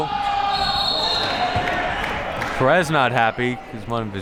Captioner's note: whistle blowing